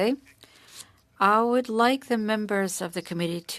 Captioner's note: speaking french